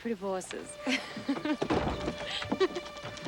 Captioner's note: both laugh; lighthearted music